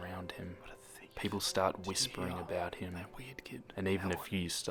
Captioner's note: whispers